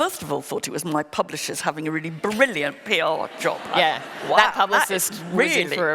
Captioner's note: laughter